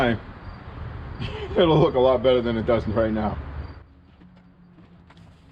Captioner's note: laughing